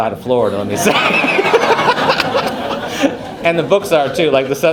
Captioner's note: crowd laughs